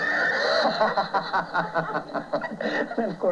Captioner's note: laughter